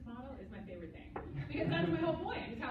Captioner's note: laughter